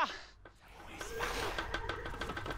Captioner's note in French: cris inquiétants